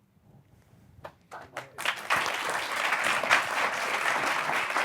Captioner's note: applause